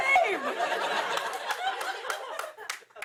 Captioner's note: laughter